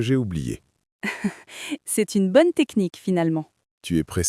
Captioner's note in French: rire